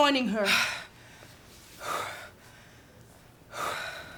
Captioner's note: panting